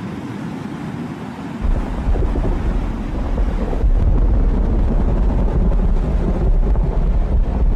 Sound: loud Distant Thunder

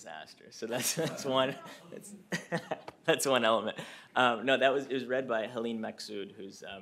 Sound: laughter

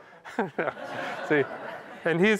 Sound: laughter

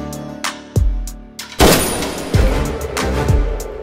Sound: gun shot

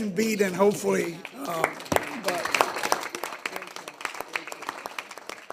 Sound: trustees applaud

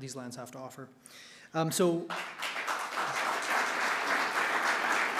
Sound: audience clapping

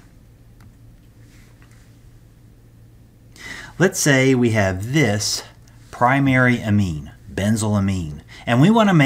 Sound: turn page

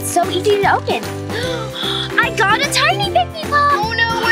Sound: gasps

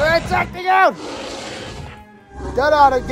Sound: buzz Sound

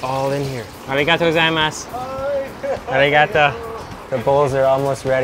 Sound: speaking in foreign language

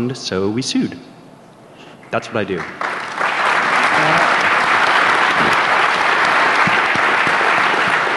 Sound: applause

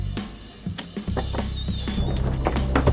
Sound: creaking

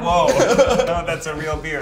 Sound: group laughs; Zach laughs

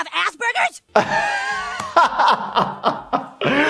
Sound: laughs

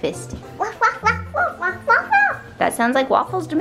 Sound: barking

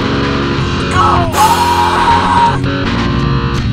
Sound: screams

